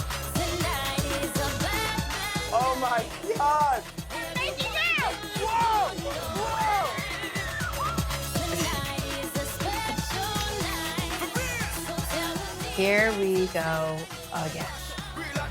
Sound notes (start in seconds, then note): 4.1 crowd yells; 8.3 giggles